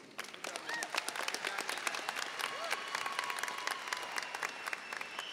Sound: audience cheering and applauding

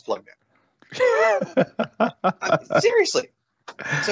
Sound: laughs

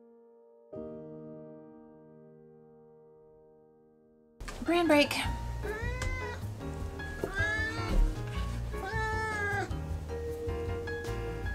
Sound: angry meowing

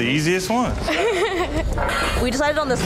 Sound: laughing; metal clanging

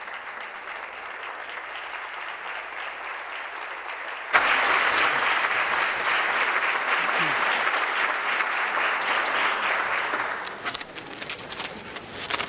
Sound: applause

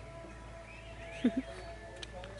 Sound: giggles

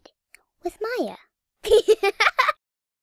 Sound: laughs

